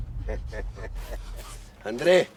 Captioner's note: laughs